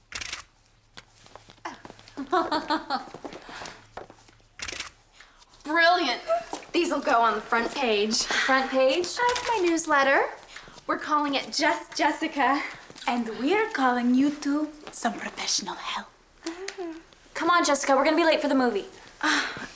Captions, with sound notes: [camera shutter clicks] [Jessica laughs] [camera shutter clicks] Brilliant. These'’ll go on the front page. -Front page? -Of my newsletter. We'’re calling it Just Jessica. And we'’re calling you two some professional help. Come on, Jessica, we'’re gonna be late for the movie.